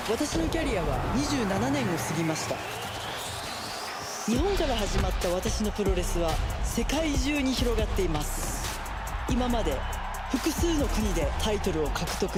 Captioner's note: japanese language